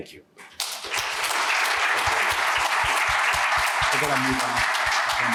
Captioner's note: applause